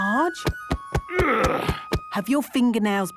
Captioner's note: thumping; moaning